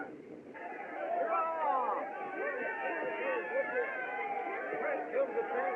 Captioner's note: cheering